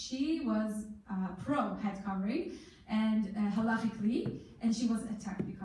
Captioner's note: in foreign language